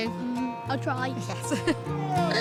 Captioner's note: laughs; horn squawks